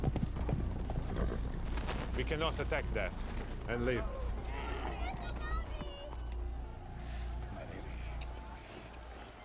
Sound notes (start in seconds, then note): 4.8 boy shouts in arabic